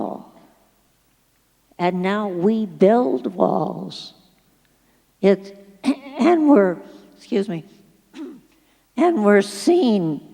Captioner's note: coughs